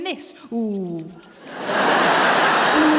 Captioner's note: laughter